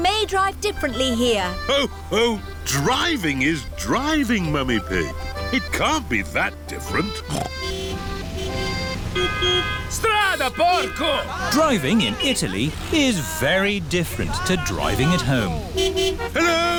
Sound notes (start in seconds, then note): 7.1 snorts; 8.2 driver yells in italian; 8.2 horns honking